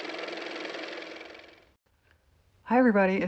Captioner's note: car motor